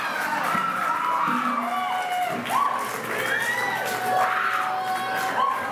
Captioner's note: crowd cheering and applauding